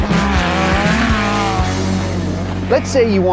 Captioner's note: engine thundering